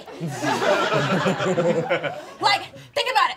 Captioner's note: all laughing